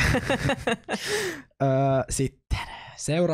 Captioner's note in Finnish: nauraa